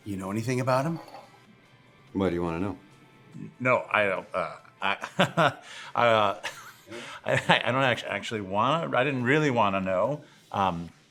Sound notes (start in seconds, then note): 6.4 nervous chuckles